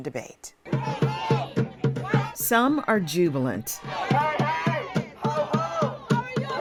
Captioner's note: crowd chants; crowd chants